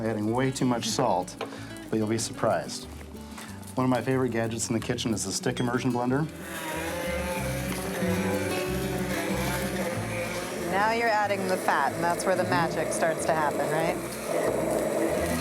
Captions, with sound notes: it always looks like I'm adding way too much salt. -[chuckles] But you'll be surprised. One of my favorite gadgets in the kitchen is the stick immersion blender. [blending noise] - Now you're adding the fat. - Mm-hmm. - And that's where the magic starts to happen, right?